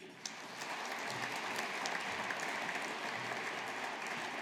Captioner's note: audience applauding